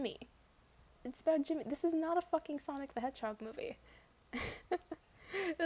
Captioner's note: laughs